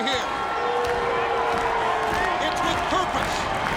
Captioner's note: audience cheering